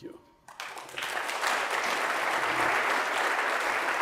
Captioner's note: applause